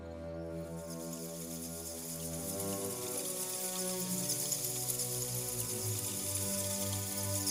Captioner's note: sounds of bats flying